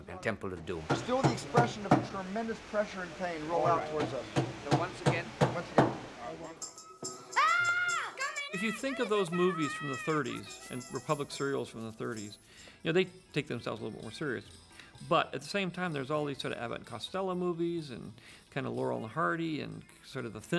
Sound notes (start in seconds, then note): 5.8 screams; 6.8 shouting in Chinese